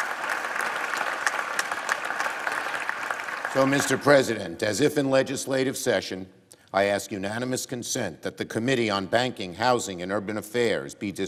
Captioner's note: applause